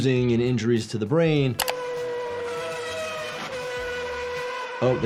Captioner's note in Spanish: el motor ruge